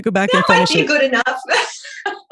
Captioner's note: laughing